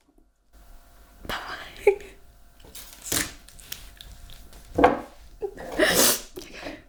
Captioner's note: crying